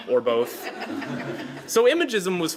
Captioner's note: laughter